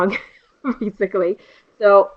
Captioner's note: laughter